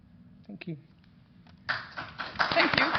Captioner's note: applause